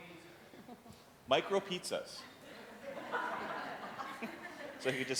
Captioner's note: audience laughing